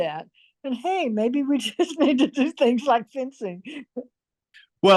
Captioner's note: laughs